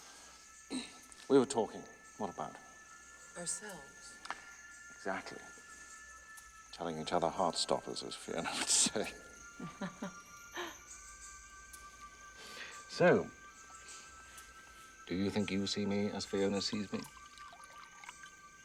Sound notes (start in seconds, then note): 9.6 laughs